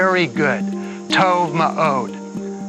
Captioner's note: speaks Hebrew